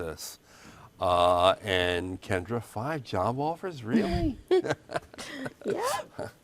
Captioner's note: laughs